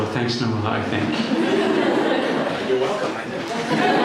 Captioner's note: people laughing